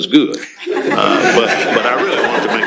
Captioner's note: laughter